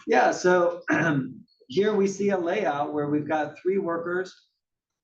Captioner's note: cough